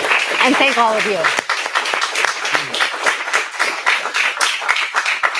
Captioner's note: applause